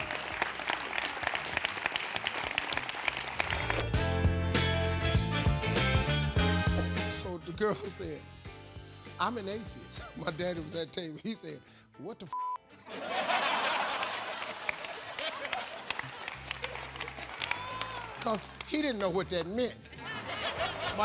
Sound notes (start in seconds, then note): 0.0 audience applauding; 12.7 beeping; 12.8 audience laughing